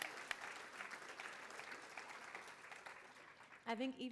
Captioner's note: applause